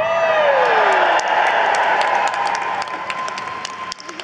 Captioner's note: audience cheers